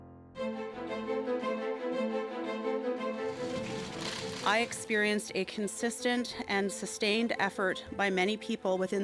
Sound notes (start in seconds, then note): 3.6 cameras clicking